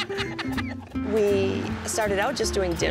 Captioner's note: laughing